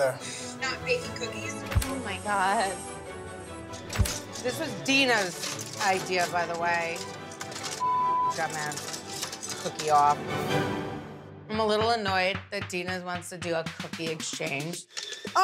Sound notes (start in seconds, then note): 7.8 beep